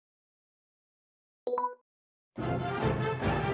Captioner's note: button beep